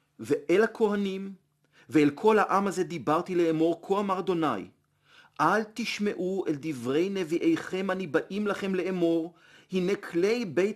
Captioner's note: Hebrew